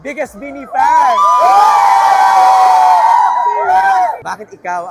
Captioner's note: loud cheering